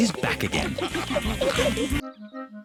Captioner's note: all giggling and snorting